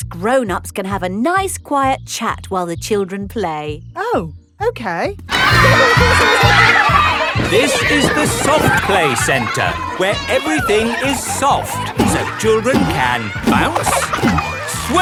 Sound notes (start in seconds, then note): 8.0 loudly over shouting